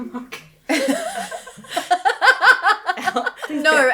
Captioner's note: laughing